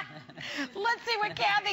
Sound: laughter

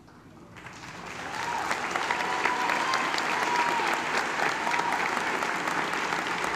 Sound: applause

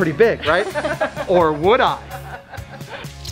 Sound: laughter

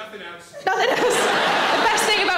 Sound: audience laughs

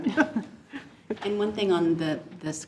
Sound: board laughs

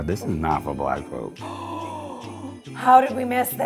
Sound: loud gasp

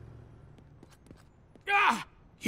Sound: shrieking

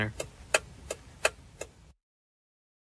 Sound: clock ticking

